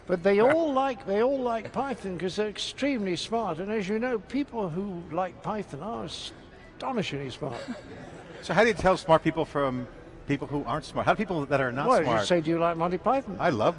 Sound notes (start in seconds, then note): 7.5 laughs